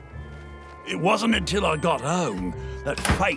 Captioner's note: none